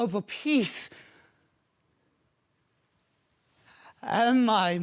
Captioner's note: soft breaths